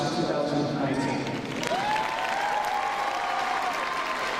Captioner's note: crowd cheering